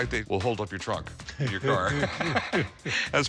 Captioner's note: laughter